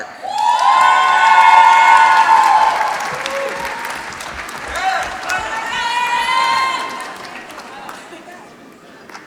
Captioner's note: applause